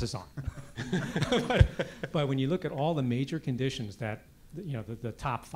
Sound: laugh

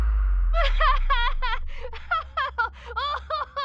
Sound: laughing

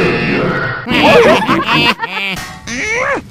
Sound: all laughing

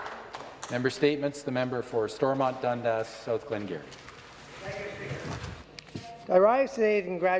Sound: applause

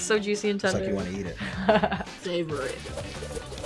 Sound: laughs

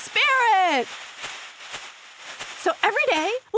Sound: pom poms fluttering

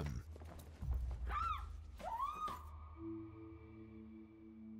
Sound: screaming

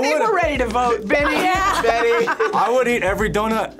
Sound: laughs

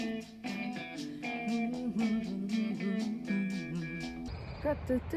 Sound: humming

